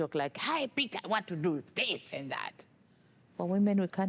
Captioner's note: speaking forcefully